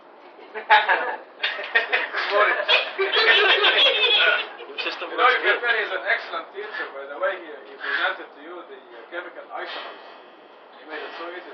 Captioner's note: Gülüşmeler